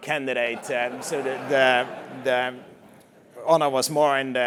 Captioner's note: laugh